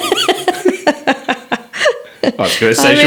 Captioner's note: all laughing